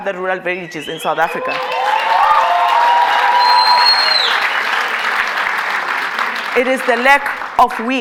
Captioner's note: cheers and Applause